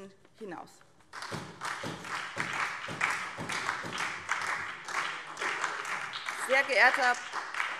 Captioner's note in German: Beifall SPD